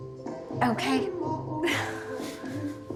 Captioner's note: laughing